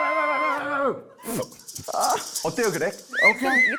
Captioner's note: chills sound effect